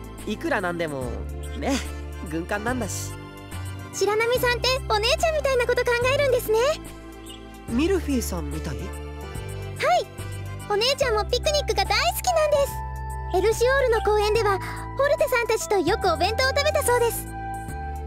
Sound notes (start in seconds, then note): none